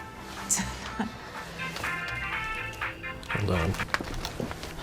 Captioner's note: dru scoffs; cell phone rings